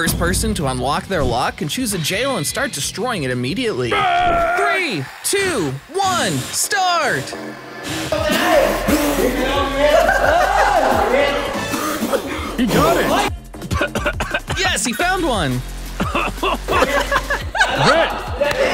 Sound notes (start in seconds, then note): 8.1 cheering; 16.0 laughs; 18.5 coughs